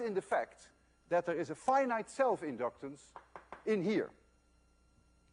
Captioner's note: tapping noise